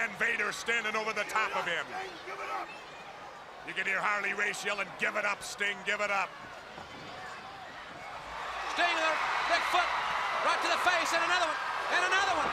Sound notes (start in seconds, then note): 3.2 crowd chatter; 7.7 crowd cheering